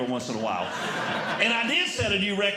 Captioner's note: audience Laughing